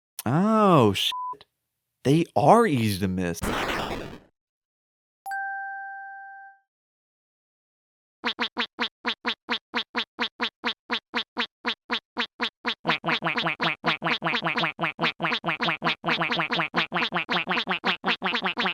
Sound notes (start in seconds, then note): 3.4 explosion; 8.2 quacking